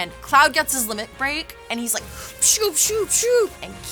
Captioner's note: imitates limit break